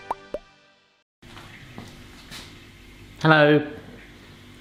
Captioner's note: orchestral music; bubbles pop